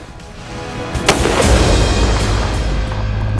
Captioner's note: shot